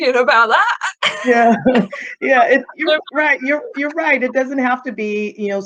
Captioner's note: chuckling